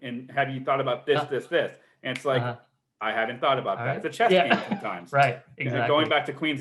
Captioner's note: snaps fingers